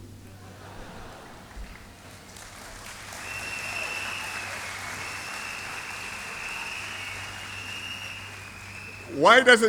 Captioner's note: applause